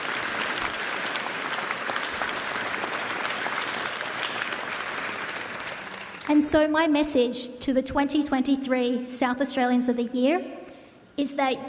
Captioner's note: applause